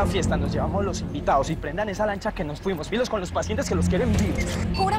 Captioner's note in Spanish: none